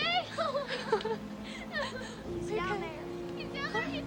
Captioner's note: children and Mandy crying